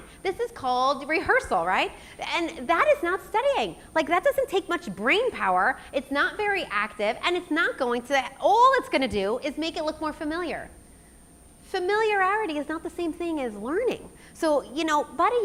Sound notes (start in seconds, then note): none